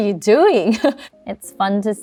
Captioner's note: chuckles